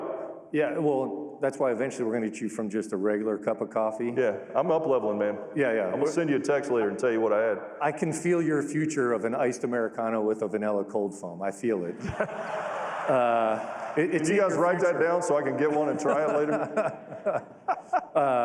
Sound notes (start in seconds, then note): 11.9 laughter